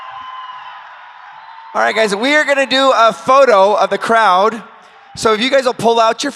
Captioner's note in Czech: Potlesk